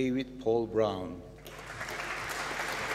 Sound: applause

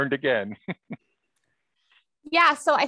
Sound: laughs

